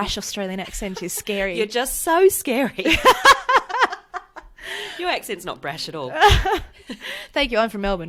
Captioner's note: laughs